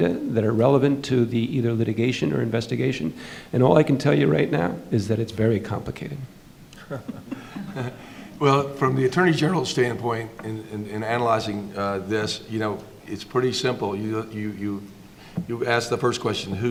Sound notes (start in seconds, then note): 6.8 panelists laughing